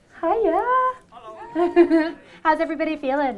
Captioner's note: laughter